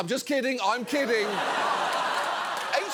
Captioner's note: audience laughs